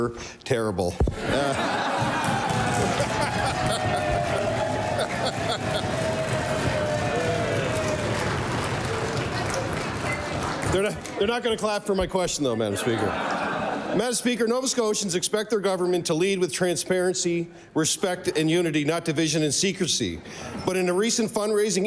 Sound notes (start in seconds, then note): 5.1 applause; 6.1 laughter